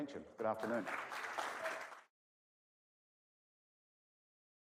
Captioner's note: audience applauds